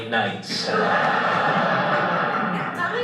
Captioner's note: audience laughter